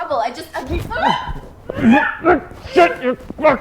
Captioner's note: Jessie screams